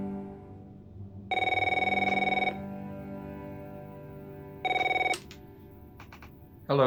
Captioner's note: phone rings